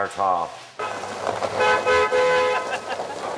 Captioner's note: horn honks